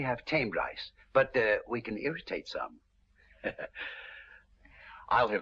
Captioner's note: laughs